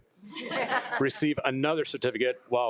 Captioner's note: crowd laughing